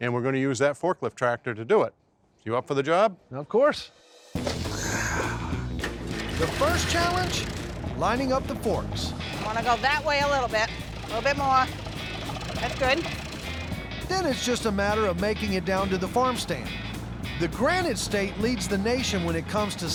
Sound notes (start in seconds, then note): 4.4 exhales